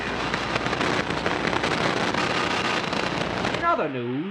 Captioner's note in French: Interférence radio